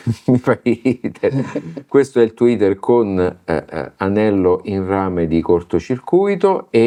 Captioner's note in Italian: risate